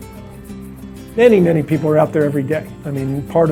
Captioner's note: male Voice